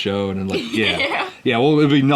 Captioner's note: laughs